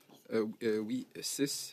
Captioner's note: speaking French